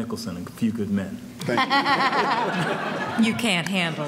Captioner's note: audience laughing